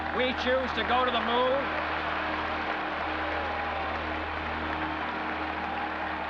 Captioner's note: cheers and applause